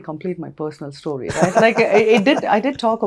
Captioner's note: laughs